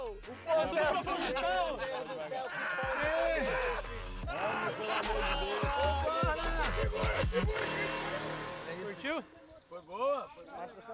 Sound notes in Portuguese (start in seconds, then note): 0.8 todos rindo; 2.2 grita